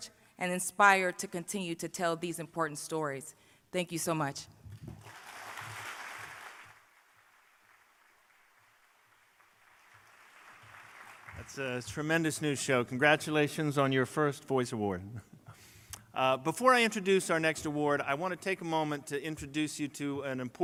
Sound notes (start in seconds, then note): 4.9 applause